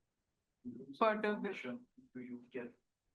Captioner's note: lecturer indistinct chattering